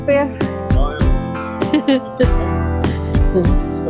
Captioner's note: unicorn laughs